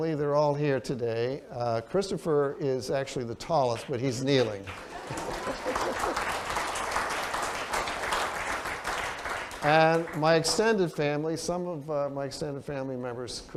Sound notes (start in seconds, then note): 4.3 applause